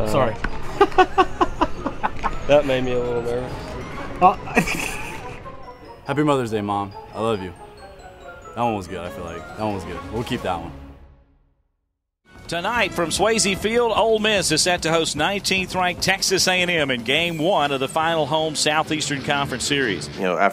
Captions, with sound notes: Stokes, are you nervous? Oh, sorry. That made me a little nervous. [Laughter]. Happy Mother's Day, Mom. I love you. That one was good, I feel like. That one was good. We'll keep that one. Tonight, from Swayze Field, Ole Miss is sent to host 19th ranked Texas A&M in game one of the final home Southeastern Conference Series.